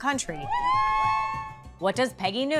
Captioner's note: supporters cheer